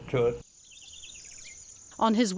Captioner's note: birds chirping